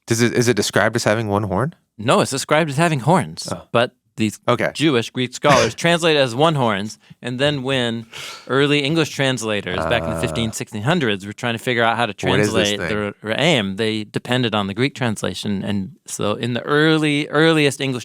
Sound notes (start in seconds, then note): 13.4 speaking in foreign language